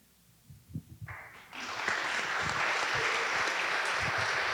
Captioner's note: audience applauding